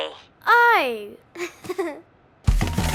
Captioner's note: giggles